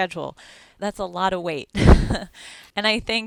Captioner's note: chuckles